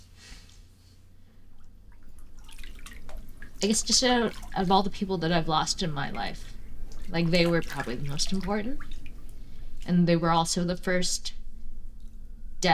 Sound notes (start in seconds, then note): none